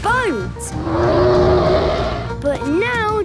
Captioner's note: loud roar